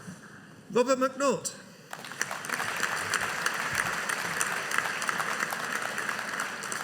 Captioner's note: audience applauding